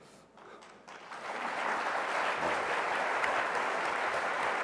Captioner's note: applause